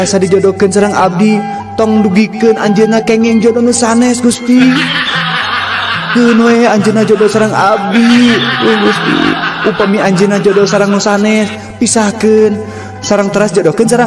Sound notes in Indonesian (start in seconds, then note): 4.5 tertawa